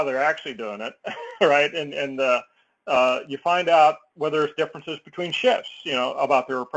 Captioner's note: laugh